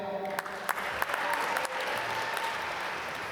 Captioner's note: applause